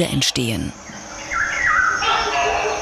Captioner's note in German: Tiergeräusche